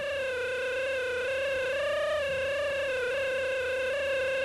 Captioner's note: machine whines